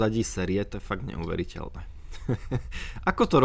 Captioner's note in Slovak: smiech